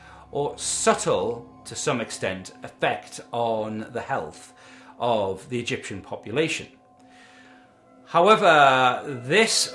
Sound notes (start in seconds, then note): 6.7 dark haunting drone sound effect plays